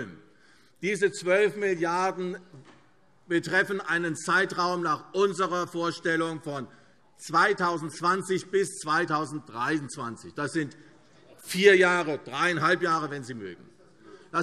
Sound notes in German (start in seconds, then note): none